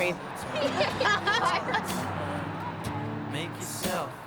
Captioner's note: laughter